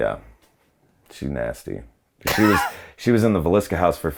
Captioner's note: laughs